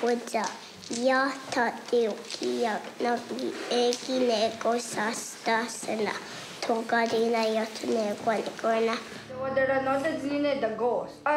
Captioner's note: speaking native language